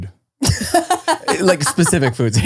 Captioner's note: laughing